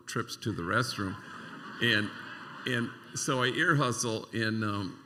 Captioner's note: laughter